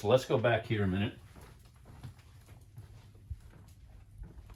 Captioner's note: footsteps